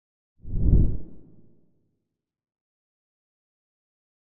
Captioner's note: logo swooshes